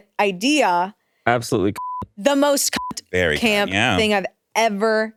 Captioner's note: beep